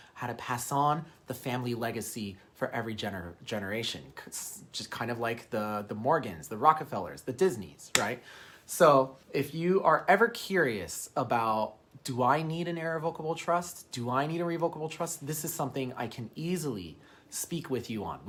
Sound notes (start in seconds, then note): 7.9 hand slapping